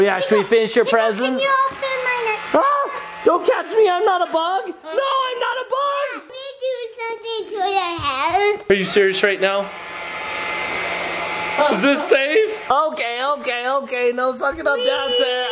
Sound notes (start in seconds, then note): 2.6 vacuum whirring; 8.7 vacuum whirring